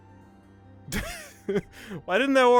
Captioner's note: laughing